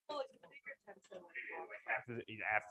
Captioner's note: indistinct conversation